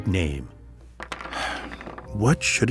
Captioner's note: sighs